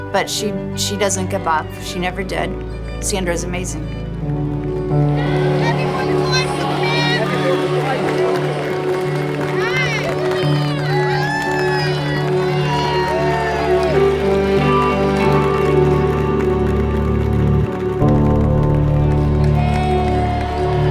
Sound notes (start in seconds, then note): 13.9 bright music continues; 13.9 crowd cheers and applauds; 20.7 bright music continues; 20.7 crowd cheers and applauds